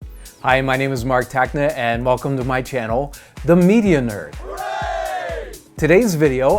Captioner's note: group: Hooray